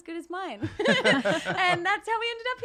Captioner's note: laughing